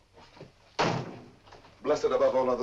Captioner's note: door closes